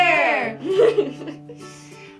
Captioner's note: laughter